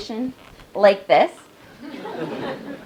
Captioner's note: laugh